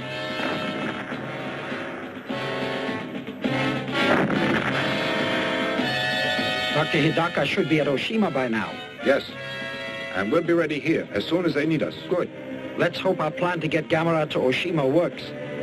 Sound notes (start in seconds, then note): 0.2 dramatic music; 4.4 explosion booms